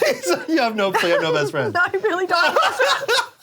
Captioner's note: laughs